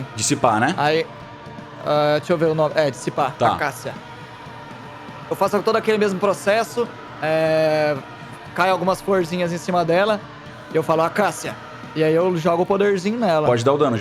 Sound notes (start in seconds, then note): none